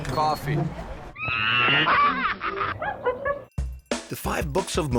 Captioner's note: monkeys laughing